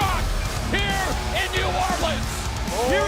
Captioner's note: crowd cheering